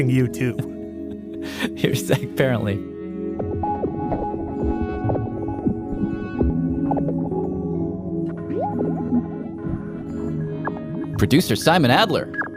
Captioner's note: laughs